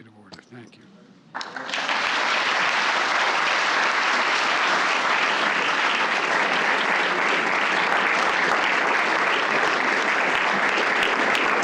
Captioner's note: applause